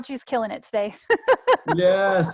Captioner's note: laughs